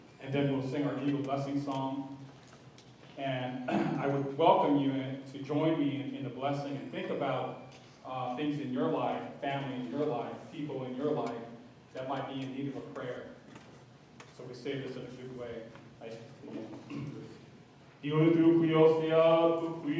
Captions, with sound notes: And then we'll sing our eagle blessing song. And I would welcome you to join me in the blessing and think about things in your life, family in your life, people in your life that might be in need of a prayer. So we say this in a good way, [SPEAKING Lushootseed language]